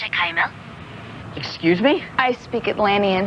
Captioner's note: Speaking Atlantean